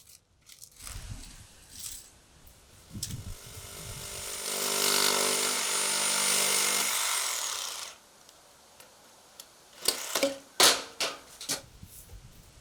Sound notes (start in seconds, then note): 5.0 electrical saw cutting